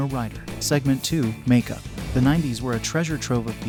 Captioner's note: voiceover